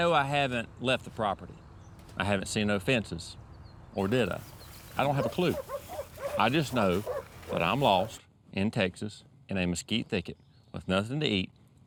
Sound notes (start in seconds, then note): 6.2 dogs barking